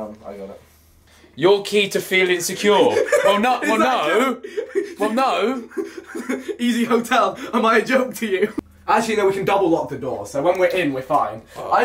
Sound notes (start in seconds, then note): 5.3 laughing